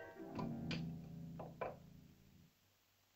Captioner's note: dish clatters